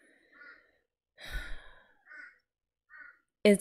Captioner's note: sighs